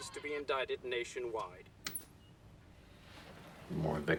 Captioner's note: television turns off